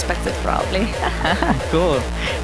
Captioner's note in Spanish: risas